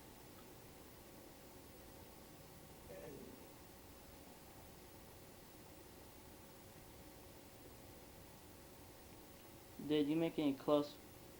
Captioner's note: pause